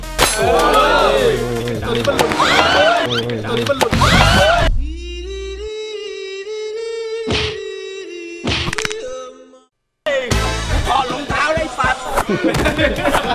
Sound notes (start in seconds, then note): 0.3 hit; 2.4 screams; 3.7 hit; 4.0 screams; 5.1 funny music playing; 12.2 laughs